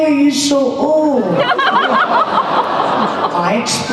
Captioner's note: audience groans